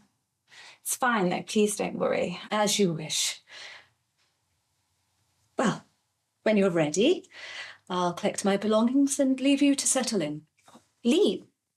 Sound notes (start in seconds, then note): none